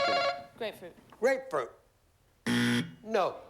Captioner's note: buzzer